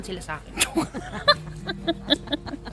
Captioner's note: laughter